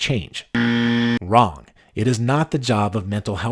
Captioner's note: buzzer